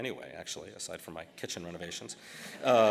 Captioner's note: laughter